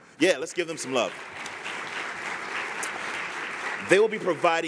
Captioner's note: applause